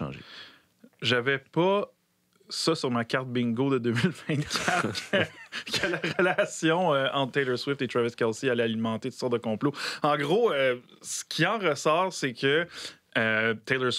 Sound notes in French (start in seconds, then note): 4.0 rires